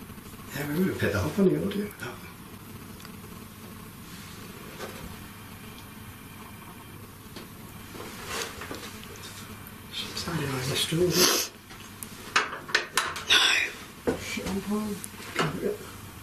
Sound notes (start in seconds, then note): 6.7 gentle creaking